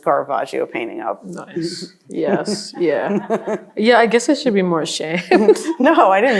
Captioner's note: laughs